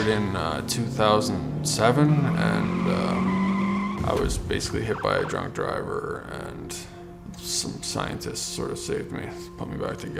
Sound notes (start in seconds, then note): 2.9 squealing tires, roaring engine